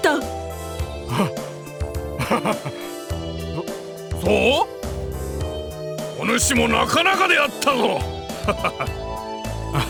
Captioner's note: awkward laugh